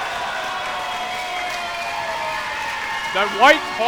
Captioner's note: crowd cheering